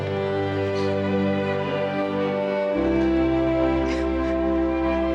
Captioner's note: heavy sobbing